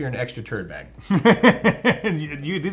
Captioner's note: laughs